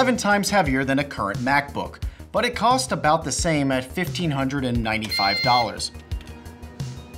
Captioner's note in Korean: 삑!